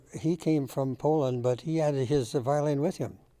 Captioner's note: none